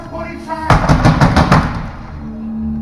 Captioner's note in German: Klopfen